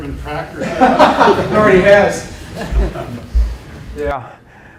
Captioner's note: laughter